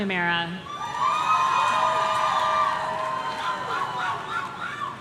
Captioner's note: audience cheering